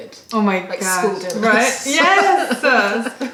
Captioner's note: laughter